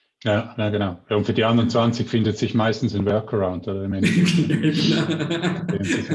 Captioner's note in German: Beide Lachen